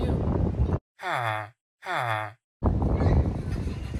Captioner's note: villager noises